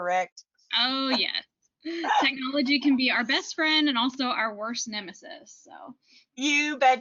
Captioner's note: chuckles